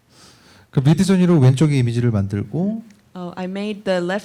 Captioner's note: speaking korean